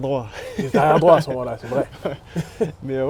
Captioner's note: laughs